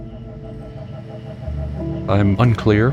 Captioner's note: motor spinning